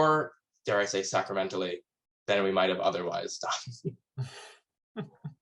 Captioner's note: chuckles